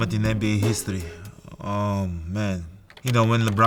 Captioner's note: keyboard clicking